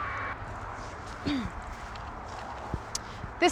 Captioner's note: clears throat